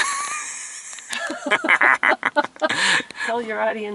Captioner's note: laugh